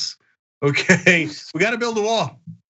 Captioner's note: laugh